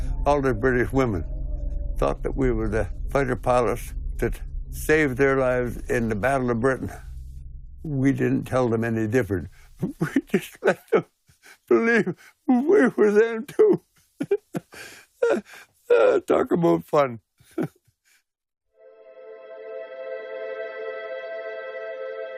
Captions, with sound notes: All the British women thought that we were the fighter pilots that saved their lives in the Battle of Britain. We didn't tell them any different. We just let them believe we were them too. [laughing] Talk about fun. [sombre music playing]